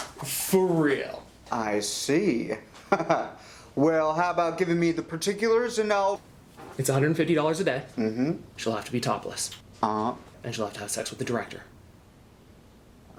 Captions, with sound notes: for real. - I see. (chuckles) Well, how about giving me the particulars, and I'll It's $150 a day. - Mm-hm. - She'll have to be topless. - Uh-huh. - And she'll have to have sex with the director.